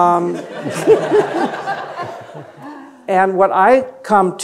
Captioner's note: audience laughing